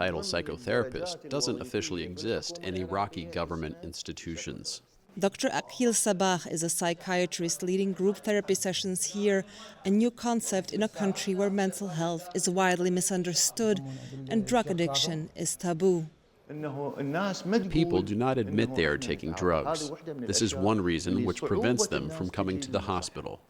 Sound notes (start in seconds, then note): 16.8 through translator